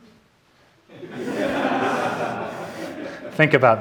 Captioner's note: audience laughing